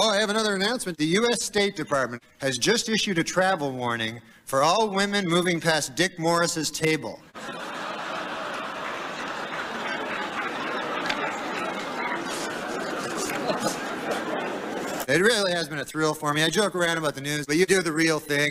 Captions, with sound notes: Oh. I have another announcement: "The Dept. of State just issued a travel warning for all women who will pass Dick Morris's table. (laughter) This really has been a thrill for me. I joke about the news. But you report it for real.